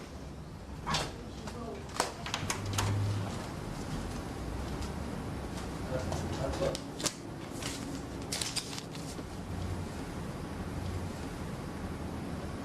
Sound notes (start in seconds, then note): 2.0 door clicks open; 7.5 rustling plastic